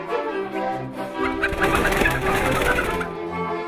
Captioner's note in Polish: gdakanie, furkot skrzydeł; skoczna muzyka